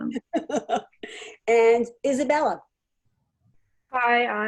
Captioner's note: laughs